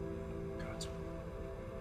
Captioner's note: whispers